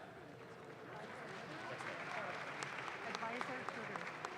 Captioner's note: audience claps